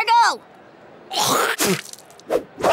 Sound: spitting

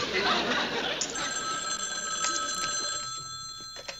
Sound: phone rings

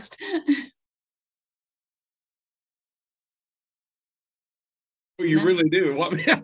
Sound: laughs

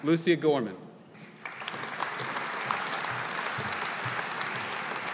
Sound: audience applauding

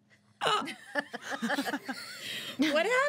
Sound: girls laugh

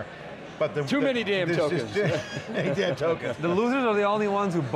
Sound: laughing

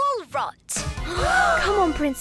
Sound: all gasp

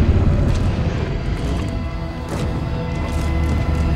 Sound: Edward growling

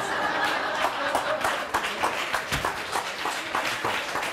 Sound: applauding

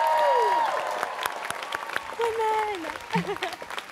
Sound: students cheering

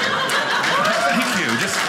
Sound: audience applauding

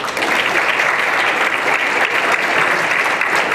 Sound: applause

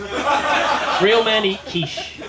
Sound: laughter

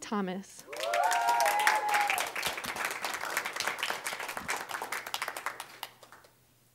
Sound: audience cheering; applause

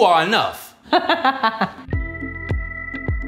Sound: laughs; mellow music

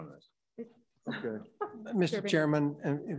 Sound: scoffs

